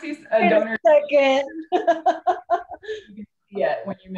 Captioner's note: laughs